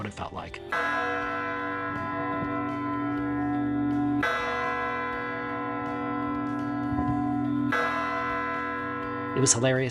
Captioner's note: bells ringing